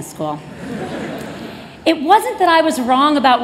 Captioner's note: laughter